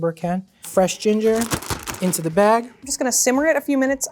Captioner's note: baggy rustling